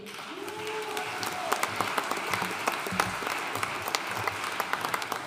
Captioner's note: audience cheering and applauding